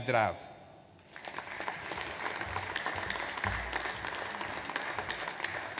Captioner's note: audience applauds